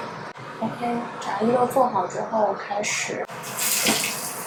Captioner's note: frying